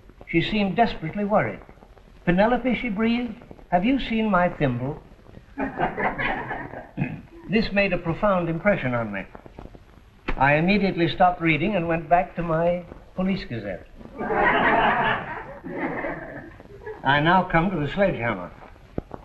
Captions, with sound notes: She seemed desperately worried. Penelope, she breathed. Have you seen my thimble?" [ LAUGHTER ] This made a profound impression on me. I immediately stopped reading and went back to my Police Gazette. [ LAUGHTER ] I now come to the sledgehammer.